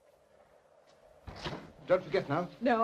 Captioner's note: box sets down